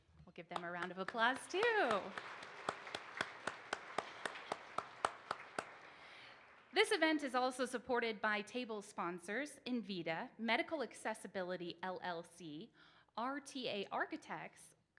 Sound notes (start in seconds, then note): 2.7 participants applauds